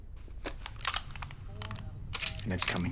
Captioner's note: guns clicking